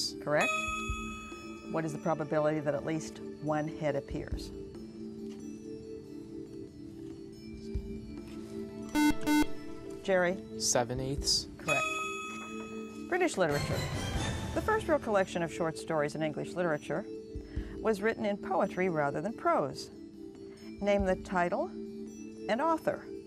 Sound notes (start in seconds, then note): 4.6 whispering; 8.9 buzzer